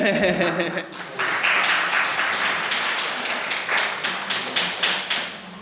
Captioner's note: laughing; audience applauding